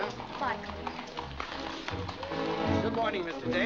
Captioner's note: hooves trotting